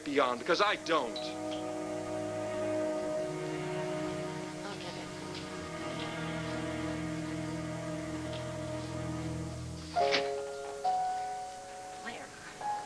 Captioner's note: doorbell rings